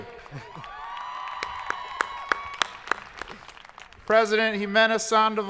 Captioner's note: audience cheering